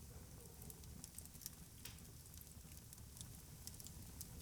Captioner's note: fire crackles